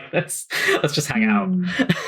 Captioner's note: laughs